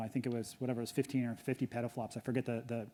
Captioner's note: none